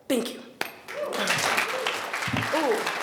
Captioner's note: attendees applauding